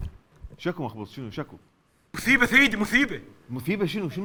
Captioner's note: Ali lisping